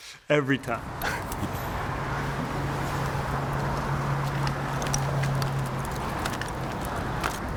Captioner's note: laughs; traffic noise